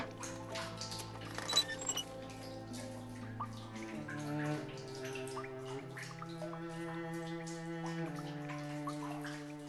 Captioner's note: water leaking continues